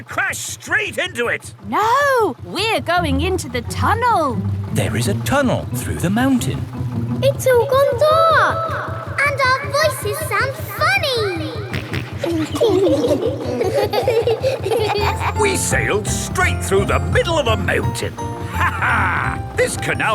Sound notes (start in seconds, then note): 7.1 echoes; 12.1 kids laughing; 12.1 snorts; 19.4 laughs